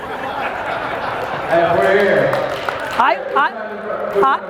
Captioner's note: crowd laughs